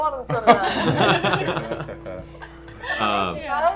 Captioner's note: laughter